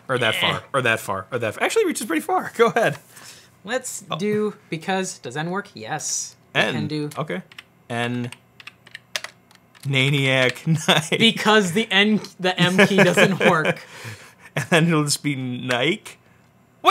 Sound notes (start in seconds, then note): 12.6 laughs